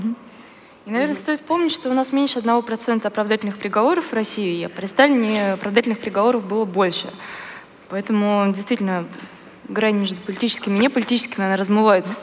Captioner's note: foreign Language